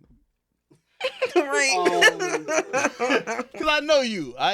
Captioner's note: laughing